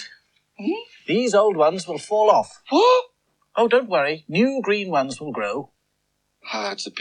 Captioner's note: Toby Gasps